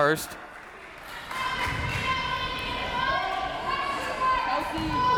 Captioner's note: crowd members shouting